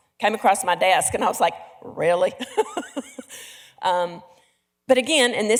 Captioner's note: laughs